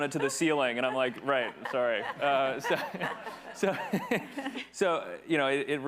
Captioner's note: attendees laughing